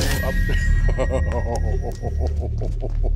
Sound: chuckles

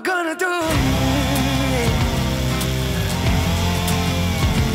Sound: chainsaw buzzing; bright guitar music

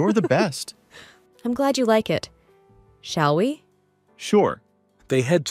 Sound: laughs

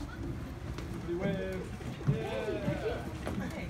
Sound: voices chattering

